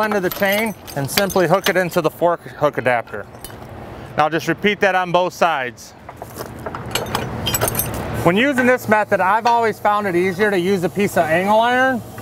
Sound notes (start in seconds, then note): 6.6 chain clanking